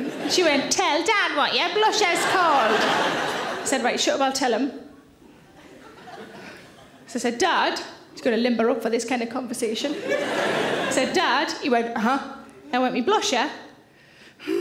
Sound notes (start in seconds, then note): 5.7 audience titters; 9.9 audience laughing